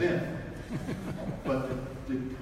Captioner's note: audience laughs